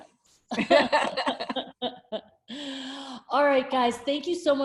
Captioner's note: both laughing